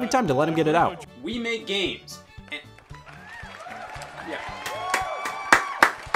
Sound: crowd applauds

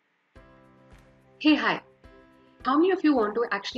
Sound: soft music; speaks in foreign language

